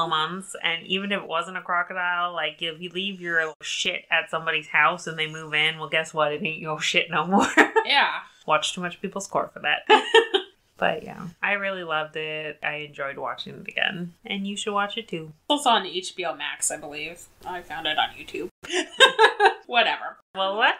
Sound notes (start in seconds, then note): 7.2 laughs; 18.6 laughs